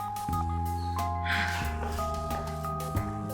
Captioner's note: pant